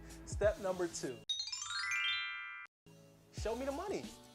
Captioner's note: magical chiming